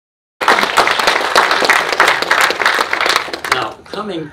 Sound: audience applauding

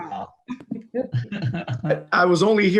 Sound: laughs

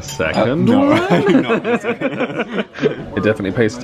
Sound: laughs

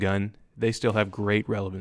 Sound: gunfire

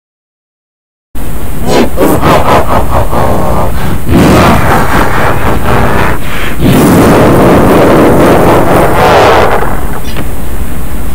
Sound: evil laugh

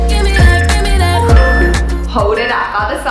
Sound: timer beeping

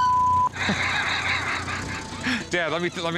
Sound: Rick laughing

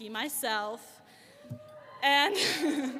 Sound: audience cheering

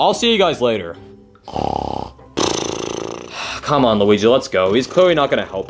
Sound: snores; sighs

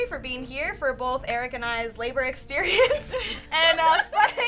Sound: laughs

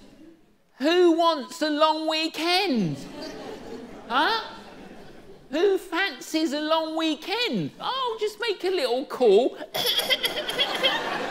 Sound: pretend cough

